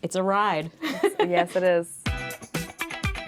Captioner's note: laughing; bright rhythmic music